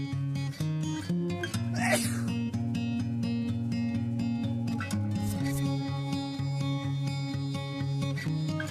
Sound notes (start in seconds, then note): 1.7 man sneezes